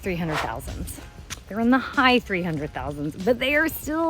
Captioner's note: tuts